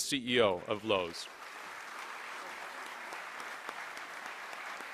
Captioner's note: applause